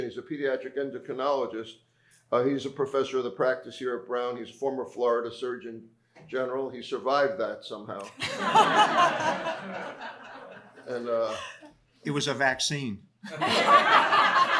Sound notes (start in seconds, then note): 8.0 laughter; 13.2 laughter